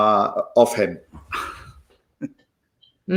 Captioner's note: giggles